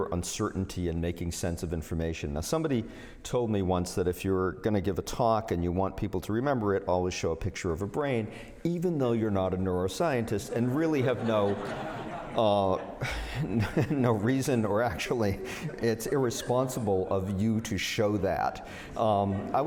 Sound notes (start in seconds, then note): 10.4 laughter